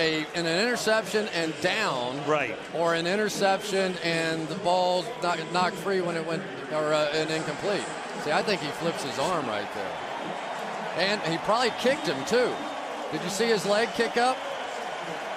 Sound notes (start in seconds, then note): 10.5 cheering